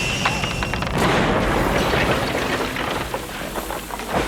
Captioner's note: explosion booming